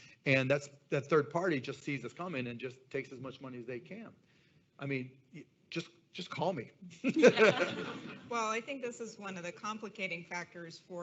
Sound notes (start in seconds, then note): 7.0 laughs